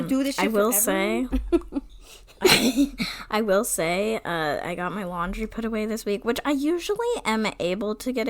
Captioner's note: laughs